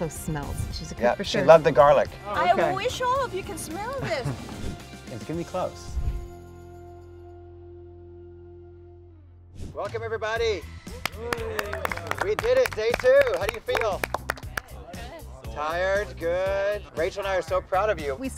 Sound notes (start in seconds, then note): 10.9 contestants applaud